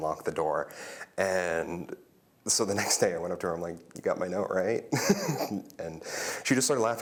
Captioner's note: laughter